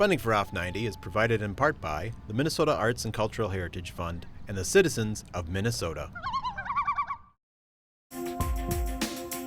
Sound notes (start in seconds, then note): 6.0 loon calling